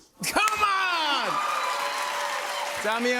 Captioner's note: cheers and applause